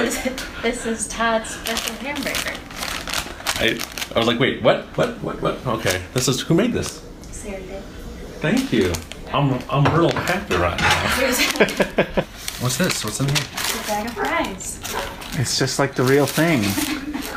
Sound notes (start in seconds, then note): 10.8 laughs; 16.6 laughs